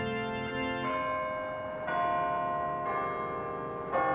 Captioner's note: bells tolling